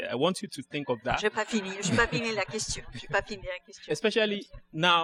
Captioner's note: speaking french